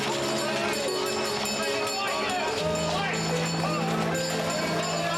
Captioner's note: people chattering